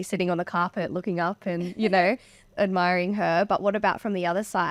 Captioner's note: laughing